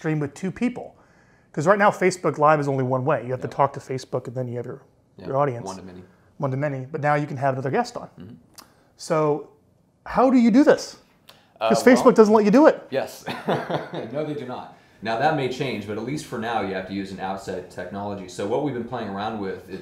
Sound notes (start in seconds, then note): 13.2 laughs